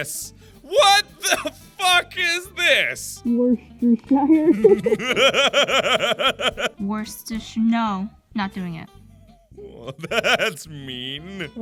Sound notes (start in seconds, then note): 4.4 laughter; 9.6 laughing